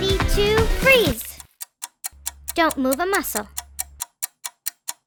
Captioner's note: clock ticking